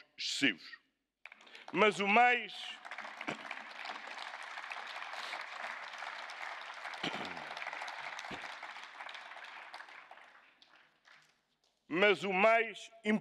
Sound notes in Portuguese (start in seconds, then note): 6.1 Aplausos